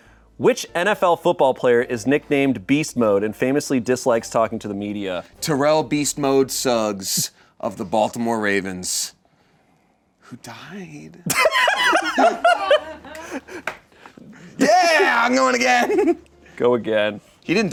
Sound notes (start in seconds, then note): 11.3 laughs